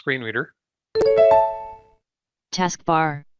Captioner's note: beep sound